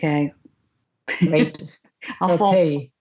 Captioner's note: laughs